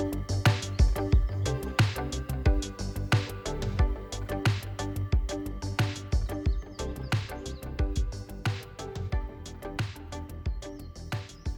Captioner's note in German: Vögel zwitschern